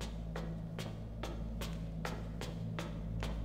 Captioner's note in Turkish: Ayak sesi